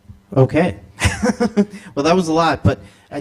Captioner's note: chuckles